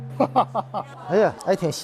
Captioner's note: hahahaha